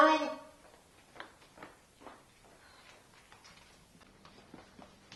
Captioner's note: feet stomping off